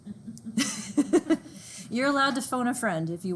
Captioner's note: all laughing